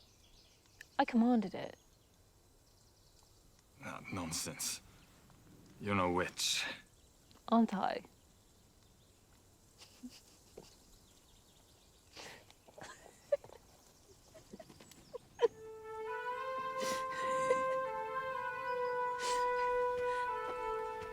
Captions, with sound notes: I commanded it. - Nonsense. You're no witch. - Aren't I? (Salina laughs) (solemn music) (Salina laughs)